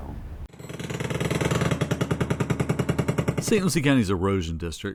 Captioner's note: engine roaring